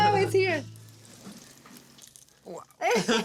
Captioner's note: chicken sizzles; laugh